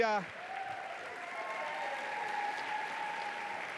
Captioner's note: applause